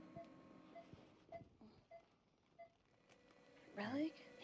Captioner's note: machine beeping